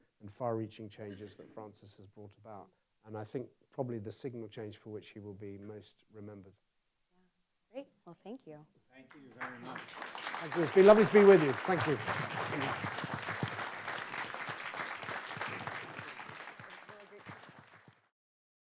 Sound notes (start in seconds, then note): 12.0 audience applauds